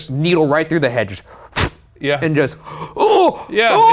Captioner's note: huffs; groans and screams